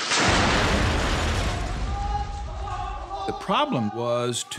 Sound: explosion

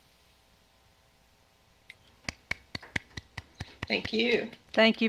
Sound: participant applauding

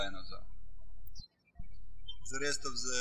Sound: birds chirping

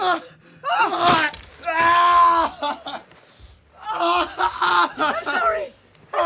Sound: screaming

